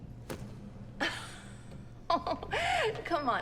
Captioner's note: Elaine laughs